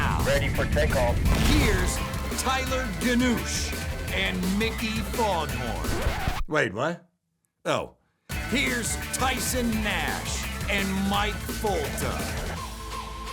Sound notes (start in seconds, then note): 5.4 record scratches